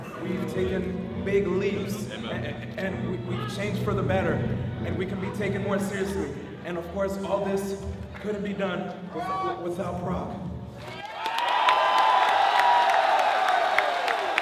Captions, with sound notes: We've taken big leaps and we've changed for the better and we can be taken more seriously and of course all this couldn't be done without Prog. [applause]